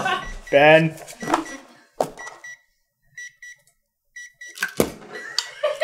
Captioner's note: gentle beeping